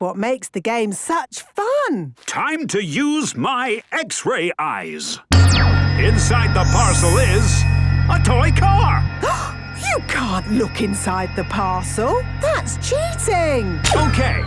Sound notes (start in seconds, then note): 9.2 gasps